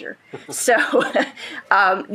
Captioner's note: shared laughing